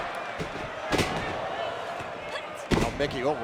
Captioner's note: canvas thuds